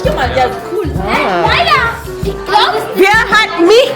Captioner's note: speaking German